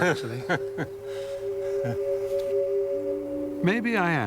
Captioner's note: Stephen chuckles